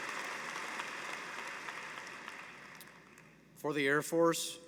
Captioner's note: applause